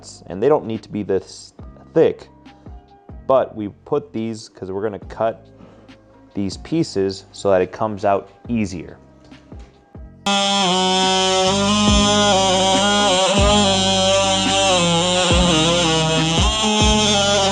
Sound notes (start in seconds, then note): 10.2 tool whirring; 14.3 calm, jazzy music